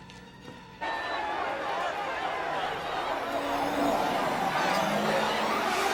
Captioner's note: chaos / angry crowd